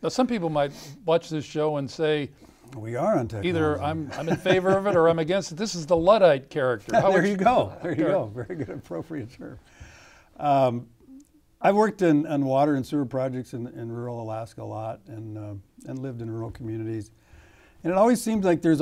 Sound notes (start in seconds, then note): 4.0 laughter